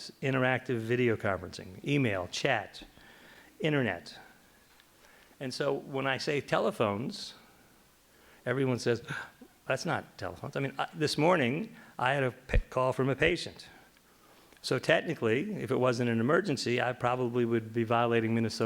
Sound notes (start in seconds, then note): none